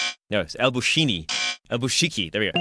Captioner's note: buzzer sound